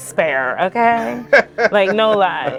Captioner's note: laughs